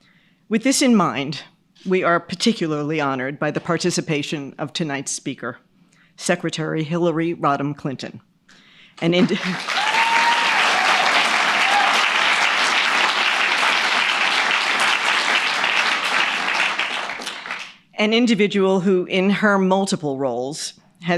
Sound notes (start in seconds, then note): 9.3 audience cheers and applauds